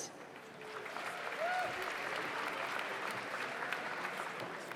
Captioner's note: audience applauds